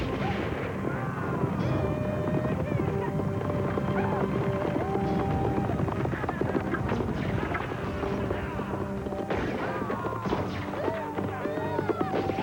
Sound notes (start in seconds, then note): 6.8 gunshots and shouts